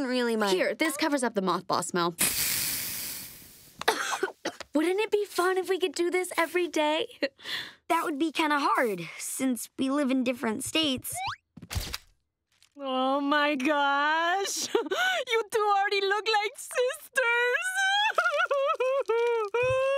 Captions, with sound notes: Here, this covers up the mothball smell. [coughing] Wouldn't it be fun if we could do this every day? That would be kind of hard, since we live in different states. Oh, my gosh, [chuckles] you two already look like sisters. [crying]